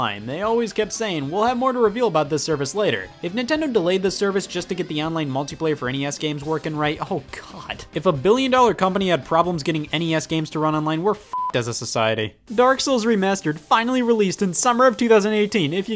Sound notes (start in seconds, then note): 11.2 beep